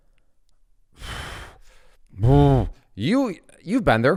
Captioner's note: puffs